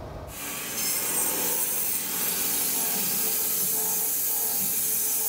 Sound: saw blade humming

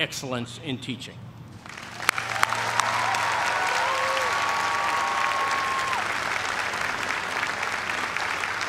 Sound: cheers and applause

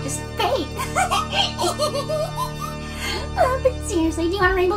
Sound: continues to laugh maniacally

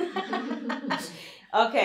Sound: laughter

